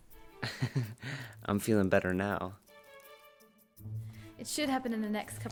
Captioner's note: laughing